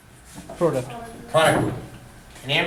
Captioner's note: voiceover